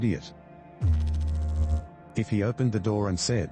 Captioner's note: electrical noise